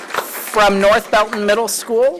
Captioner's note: applause